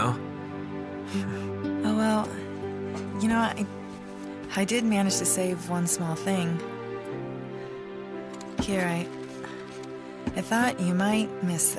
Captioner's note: in-game audio